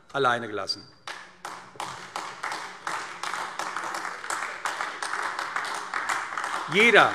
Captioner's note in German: Beifall AfD